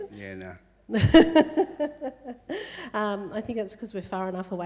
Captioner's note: laughing